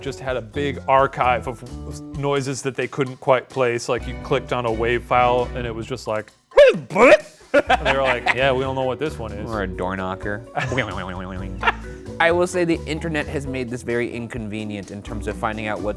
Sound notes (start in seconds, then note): 6.6 laughing; 6.6 speaks gibberish; 10.8 imitates spring bouncing; 11.5 laughs